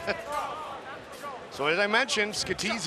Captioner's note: laughing